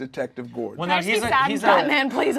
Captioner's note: overlapping chattering